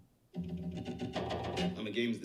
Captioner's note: equipment banging